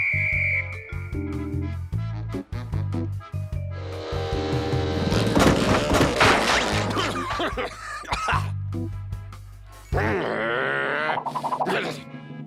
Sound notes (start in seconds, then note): 3.0 motor whirs; 5.0 motor sputters; 6.6 coughs; 10.0 growls